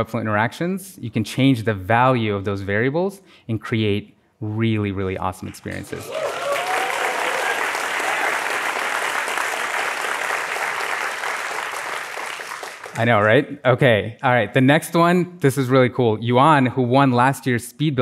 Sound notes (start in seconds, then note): 10.1 applause